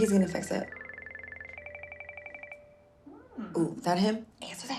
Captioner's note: phone rings